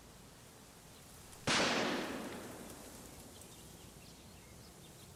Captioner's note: gun firing